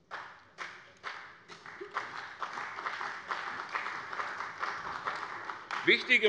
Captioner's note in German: Beifall bei der CDU und dem BÜNDNIS 90/DIE GRÜNEN